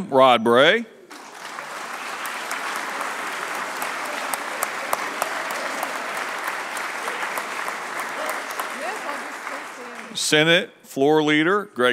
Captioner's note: applause